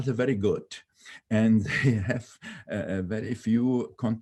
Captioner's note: laughing